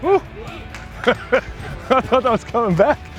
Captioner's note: laughs